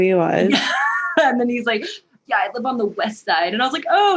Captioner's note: laughs